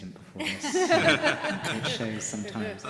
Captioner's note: laughter